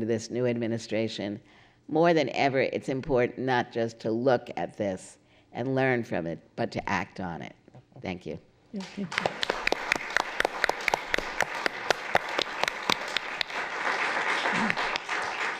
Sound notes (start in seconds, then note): 8.8 applause